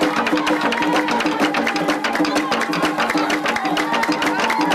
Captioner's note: crowd clapping